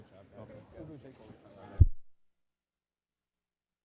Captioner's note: chatter